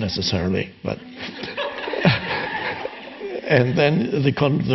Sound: audience and Eckhart laughing in unison

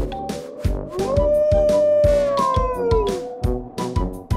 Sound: wolf howls

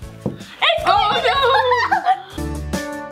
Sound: laughs; upbeat music

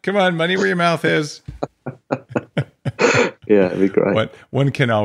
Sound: laughing

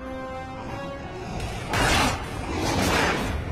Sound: sighs; snarling

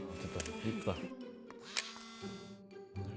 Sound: another click

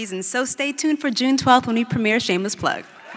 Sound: laughter

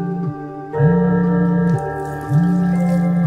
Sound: mobile Ringing

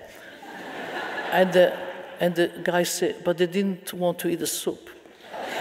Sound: audience laughing

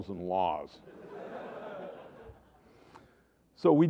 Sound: laughter

